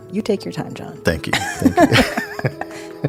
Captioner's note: laughs